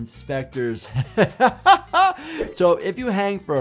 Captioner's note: laughs